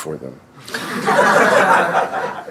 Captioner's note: laughter